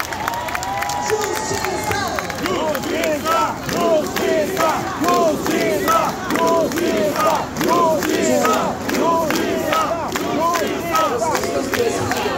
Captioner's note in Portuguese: Aplausos